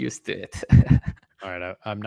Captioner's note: laughs